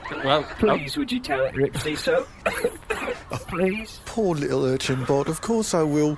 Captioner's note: coughs